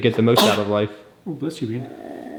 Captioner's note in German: niest